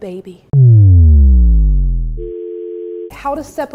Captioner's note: weird sound effect